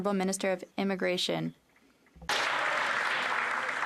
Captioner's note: applause